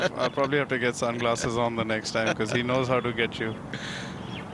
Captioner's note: laughter